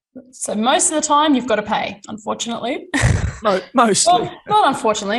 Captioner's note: laughs